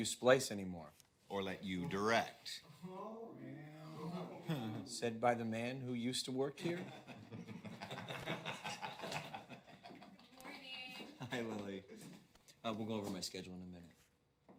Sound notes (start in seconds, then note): 10.2 chuckling